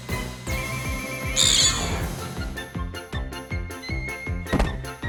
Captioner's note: screech